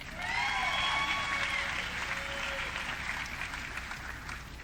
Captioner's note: audience cheering